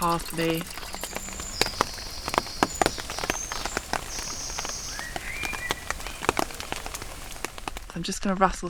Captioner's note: rain & birdsong